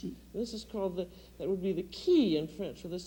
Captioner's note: speaks French